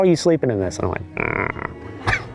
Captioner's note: sleeping noises